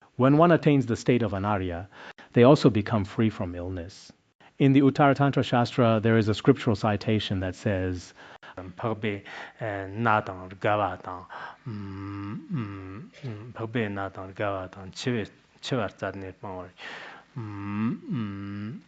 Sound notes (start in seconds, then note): 8.3 citing scripture in Tibetan